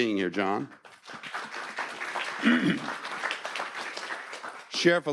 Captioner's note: audience applauding